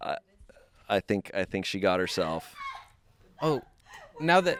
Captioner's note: crew laughing